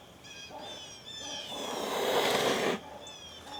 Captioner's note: hisses